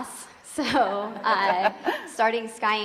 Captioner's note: women chuckling